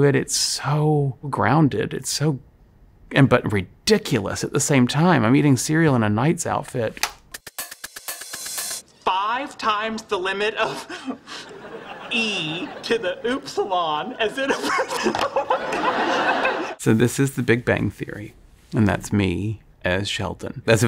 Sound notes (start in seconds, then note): 7.4 upbeat music; 14.4 laughing